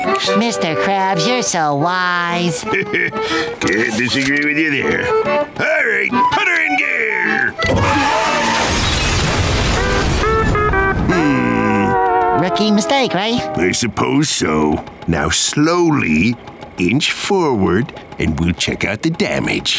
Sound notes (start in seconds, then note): 2.5 chuckles; 8.4 thudding, shattering